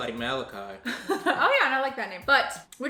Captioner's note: laughs